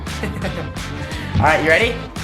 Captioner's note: laughs